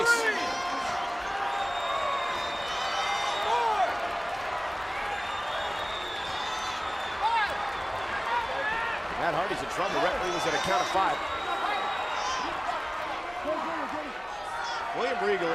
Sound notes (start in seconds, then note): 5.7 crowd cheering; 12.5 crowd cheering